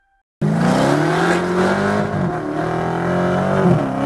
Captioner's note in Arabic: تسريع محرك السيارة